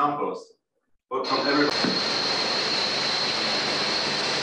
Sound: blade grinds

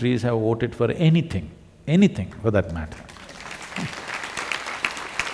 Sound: applause

